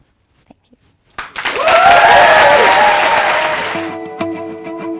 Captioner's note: applause